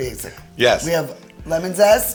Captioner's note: laughs